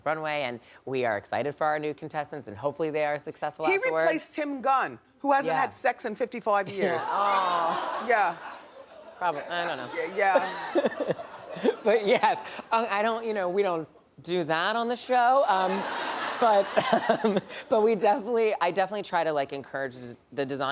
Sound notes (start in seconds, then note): 6.9 groans; 9.6 laughs; 15.7 laughs